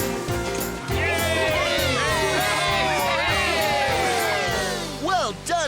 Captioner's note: cheering